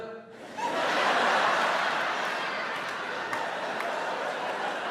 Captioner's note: audience laughing